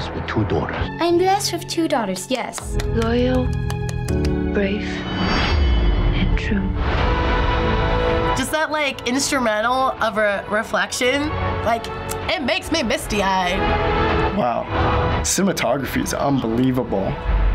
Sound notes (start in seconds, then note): 2.0 claps